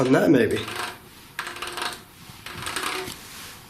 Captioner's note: scraping